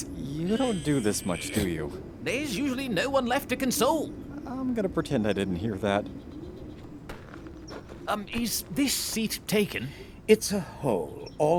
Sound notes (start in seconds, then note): 0.0 strained; 7.0 footsteps